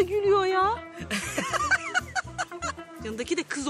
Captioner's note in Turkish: Gülme sesi